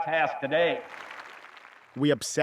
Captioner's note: applause